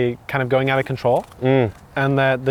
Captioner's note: hums